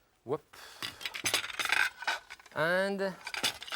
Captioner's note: cutlery clinking